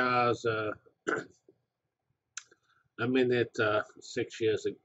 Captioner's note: cough